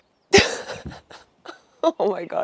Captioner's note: chuckles